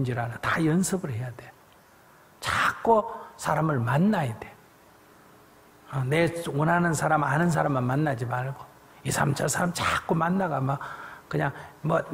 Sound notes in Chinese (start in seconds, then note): none